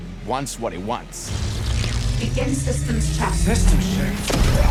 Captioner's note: powering up